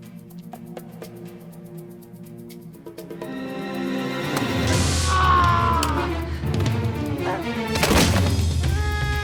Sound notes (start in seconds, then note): 4.7 screams; 6.4 dramatic music